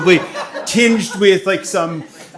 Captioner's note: people laughing